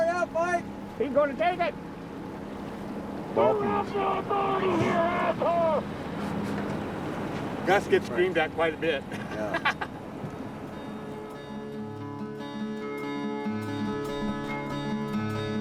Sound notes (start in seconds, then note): 3.3 man yelling; 9.1 laughs; 12.9 gentle music